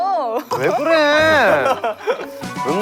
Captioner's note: crying